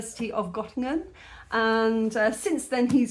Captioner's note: none